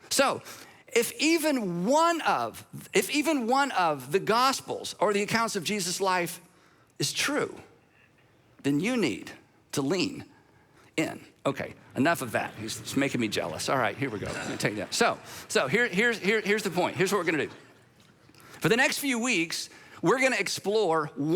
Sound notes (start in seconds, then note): 16.4 audience laughs